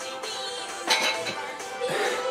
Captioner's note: silverware clanging; laughs